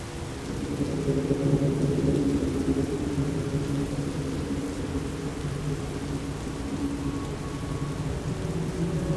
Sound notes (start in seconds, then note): 0.7 rain pouring